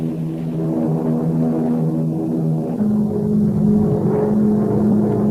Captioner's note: plane engines roaring; plane engines revving